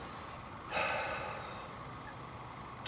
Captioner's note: sigh